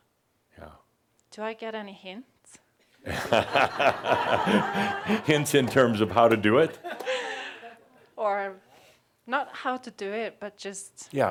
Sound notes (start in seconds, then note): 5.3 laughter